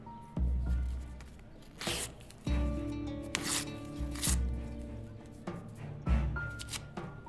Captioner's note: paper tearing noise